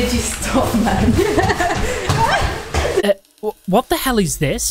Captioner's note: laughs